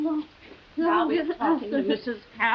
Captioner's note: both stammering